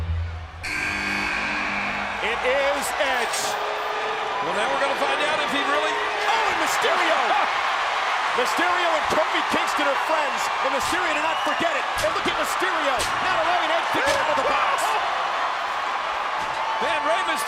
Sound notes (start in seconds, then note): 0.1 chamber buzzes